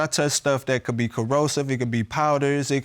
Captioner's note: none